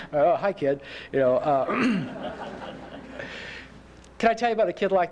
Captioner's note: laughter